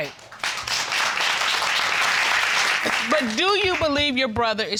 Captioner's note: audience applauding